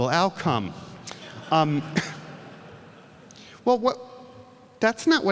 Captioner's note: audience laughs